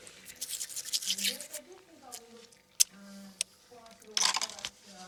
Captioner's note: television playing